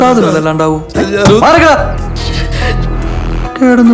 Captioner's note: sobbing